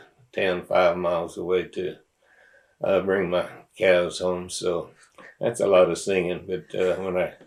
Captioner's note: laughter